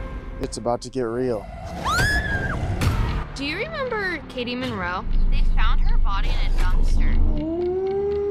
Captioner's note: screaming